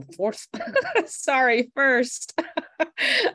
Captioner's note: laughs